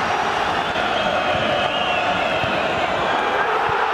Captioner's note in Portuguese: torcida celebrando; sons da torcida; gritos de gol